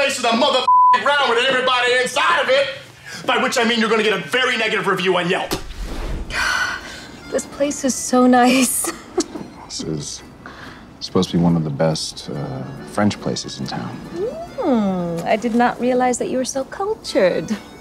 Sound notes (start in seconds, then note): 0.6 beep; 6.2 exhaling; 8.8 chuckling